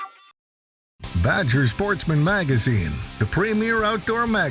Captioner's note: voiceover